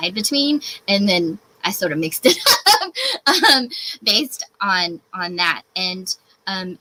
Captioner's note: laughs